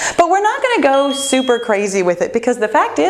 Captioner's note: bell chimes